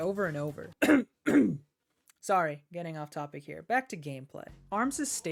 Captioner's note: cough